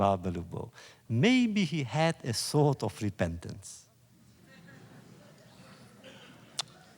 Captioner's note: laughter